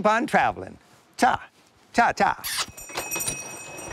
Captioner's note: smooches